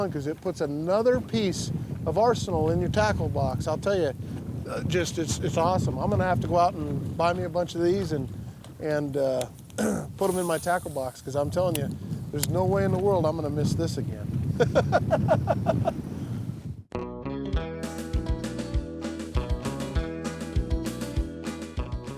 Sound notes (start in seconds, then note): 14.6 laughs